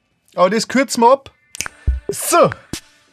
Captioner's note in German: schnipp